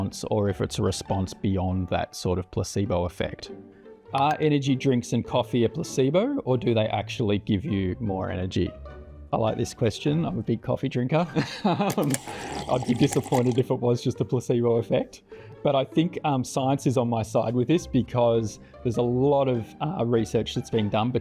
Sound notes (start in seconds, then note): 11.8 laughs; 11.9 drinker slurping